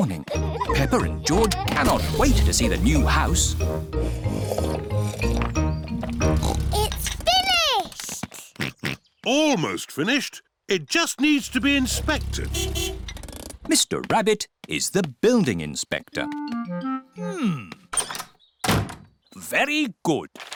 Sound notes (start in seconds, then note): 3.9 slurping; 6.0 oinks; 7.9 george oinks; 11.5 horn beeps